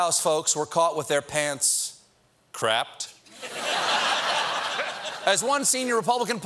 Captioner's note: laughter